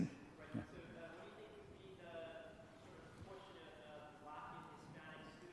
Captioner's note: student speaking faintly